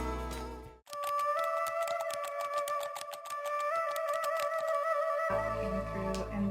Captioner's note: keys typing; eerie music